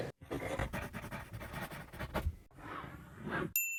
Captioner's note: pencil writing